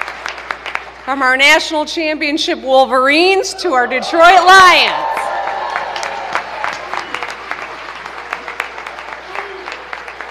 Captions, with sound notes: [ Applause ] FROM OUR NATIONAL CHAMPIONSHIP WOLVERINES TO OUR DETROIT LIONS...